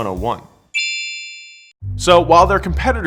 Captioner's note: chime sounding